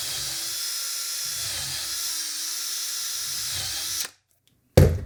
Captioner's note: drilling